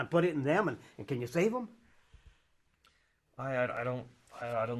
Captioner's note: none